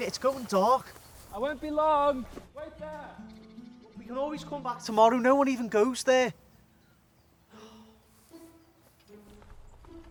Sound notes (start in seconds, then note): 7.5 Sean sighs